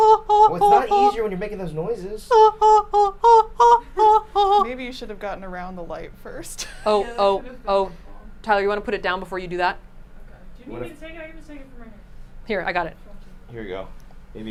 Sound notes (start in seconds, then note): 2.3 hoots